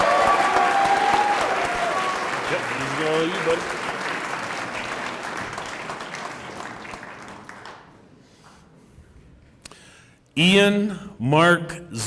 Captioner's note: applause